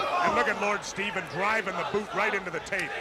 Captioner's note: crowd chatter